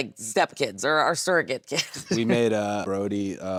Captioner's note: laughs